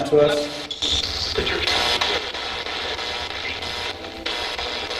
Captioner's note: static buzzing